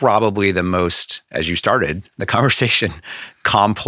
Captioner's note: laughing